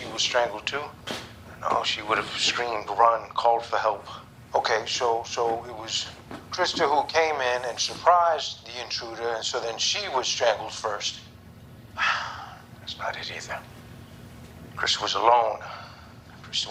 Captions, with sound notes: and she was strangled too? No run, called for help.med, OK, so it was Krista who came in and surprised the intruder, and so then she was strangled first. [sighs] That's not it either. Krista was alone.